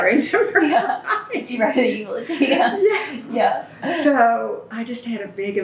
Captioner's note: laughter; laughs